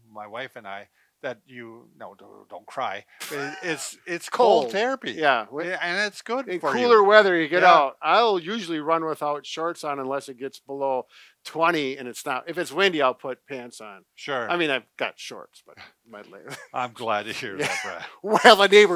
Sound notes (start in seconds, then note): 3.2 chuckles